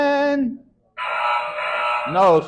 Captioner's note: error sound effect